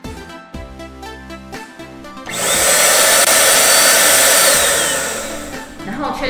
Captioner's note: normal running sound of the motor